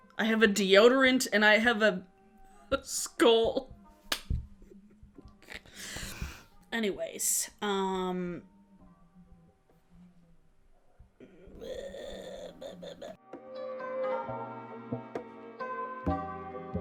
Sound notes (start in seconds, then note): 4.6 chuckles; 14.0 gentle music